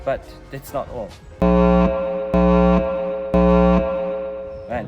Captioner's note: alarm sound